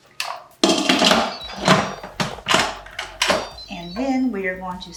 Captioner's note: Instant Pot beeps